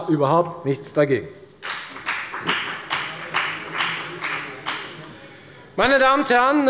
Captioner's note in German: Beifall bei der FDP